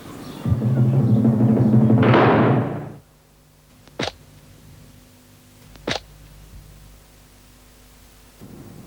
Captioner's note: gate Slam